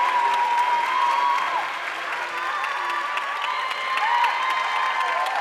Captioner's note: audience applauding